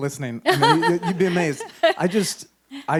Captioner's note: chuckles